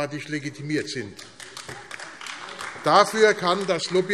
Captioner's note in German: Beifall AfD